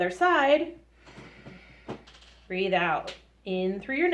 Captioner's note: exhales strongly